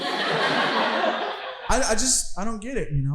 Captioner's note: audience laughing